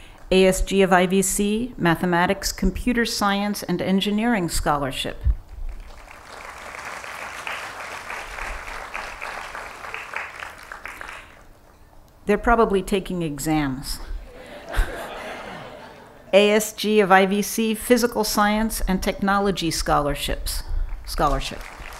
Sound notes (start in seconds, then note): 5.6 applause; 14.2 laughing